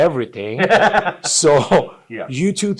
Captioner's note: both laugh